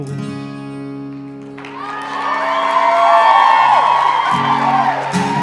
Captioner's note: applause